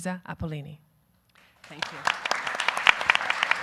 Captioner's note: audience applauding